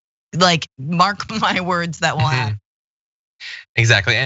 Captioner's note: laugh